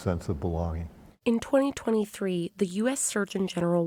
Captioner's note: voice-over